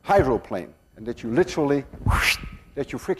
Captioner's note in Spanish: A º hace soplido soundÄ ¸